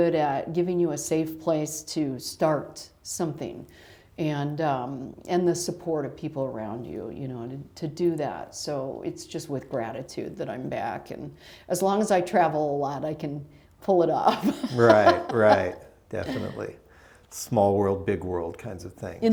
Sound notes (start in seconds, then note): 14.3 laughter